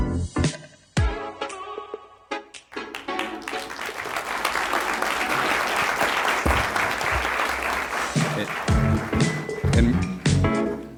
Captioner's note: applause